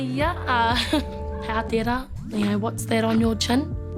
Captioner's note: laughs